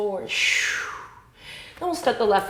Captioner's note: sharp exhale